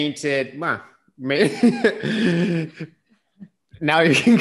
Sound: laughs

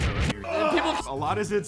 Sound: screamign

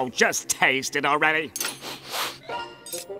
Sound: sniffing

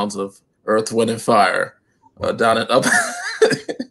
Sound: laughter

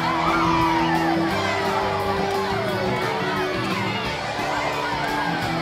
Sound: performers whooping

